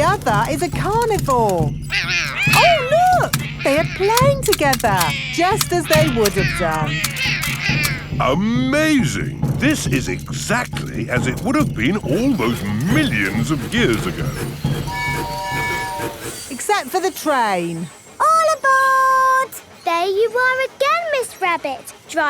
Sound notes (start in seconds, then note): 14.7 train tooting